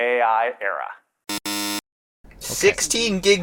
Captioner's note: buzzer